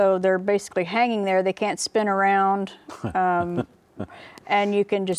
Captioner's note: laughs